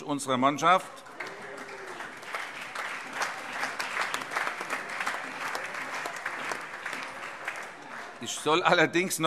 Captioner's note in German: Beifall